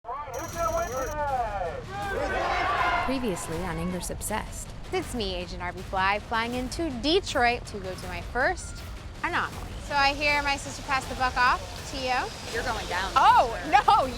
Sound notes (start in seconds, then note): 1.2 crowd yells team